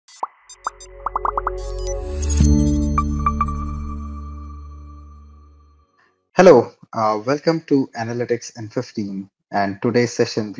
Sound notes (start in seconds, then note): 0.0 soft electronic music; 1.0 bubbles popping